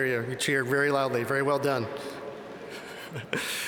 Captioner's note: chuckles